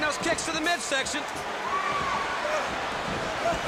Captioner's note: crowd chatter